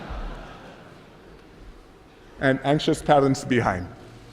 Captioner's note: laughter